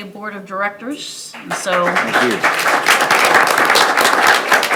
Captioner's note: attendees applauding